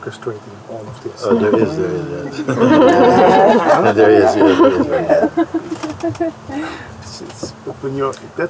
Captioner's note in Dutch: gelach